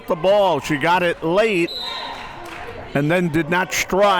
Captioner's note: whistle tweeting